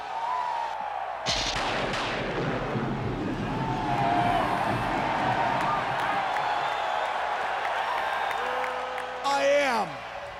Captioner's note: crowd cheering